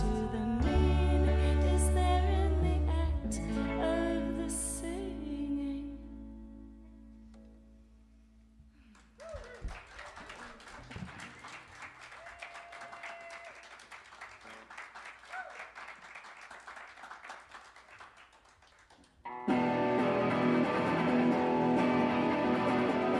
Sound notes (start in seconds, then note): 4.3 tempo slowing; 8.9 cheers and applause; 19.5 fast tempo rock music